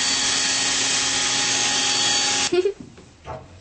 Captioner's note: drill sounds